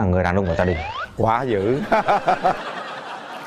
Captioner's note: laugh